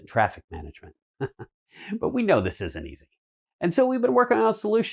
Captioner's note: chuckles